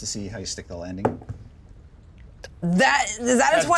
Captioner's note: die thumps